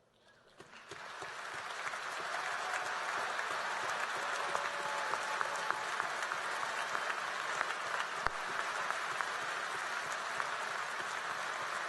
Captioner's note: applause